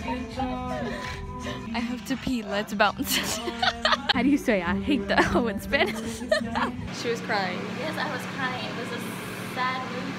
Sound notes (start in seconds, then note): 2.9 laughing; 5.0 laughs